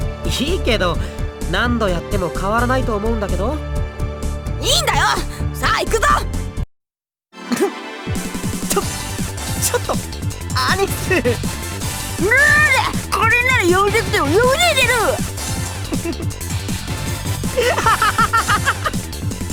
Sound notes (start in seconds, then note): 8.2 pffff; 17.5 breaking into laughter